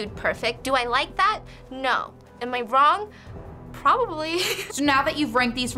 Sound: laughs

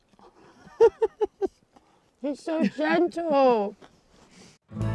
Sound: laughs

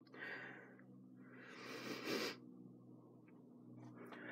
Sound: sniffling

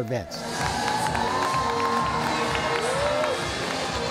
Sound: crowd cheering

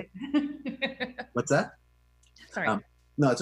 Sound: laughs

